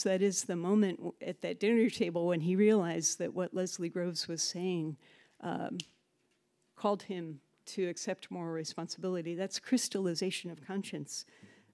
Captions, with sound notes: that is, the moment at that dinner table when he realized that what Leslie Gross was saying (snaps) called him to accept moral responsibility. That's crystallization of conscience.